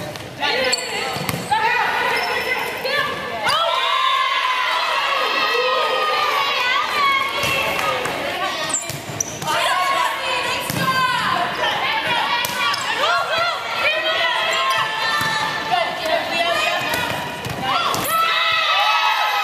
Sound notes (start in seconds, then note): 6.5 cheers